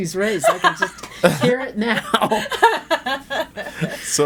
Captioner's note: laughing